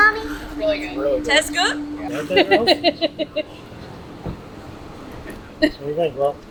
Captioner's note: laughing